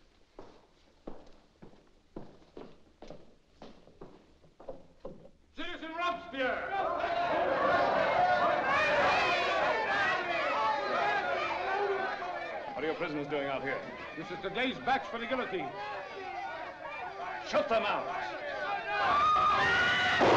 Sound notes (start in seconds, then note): 0.0 departing footsteps; 7.3 prisoners clamoring; 16.4 prisoners clamoring; 18.9 prisoners scream; 20.1 gunshots